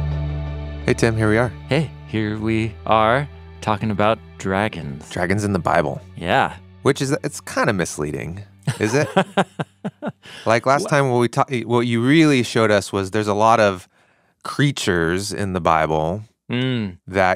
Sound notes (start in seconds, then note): 8.6 laughs